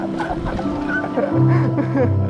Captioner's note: laughing